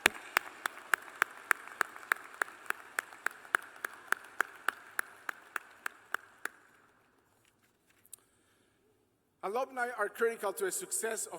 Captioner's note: applause